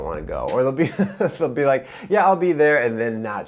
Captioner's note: laughs